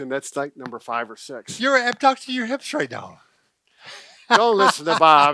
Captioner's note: laughs